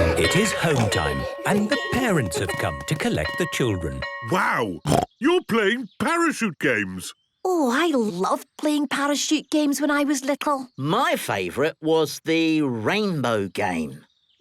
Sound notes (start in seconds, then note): 4.8 snorting